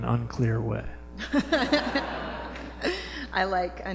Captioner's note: laughter